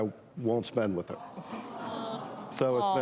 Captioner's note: audience sighs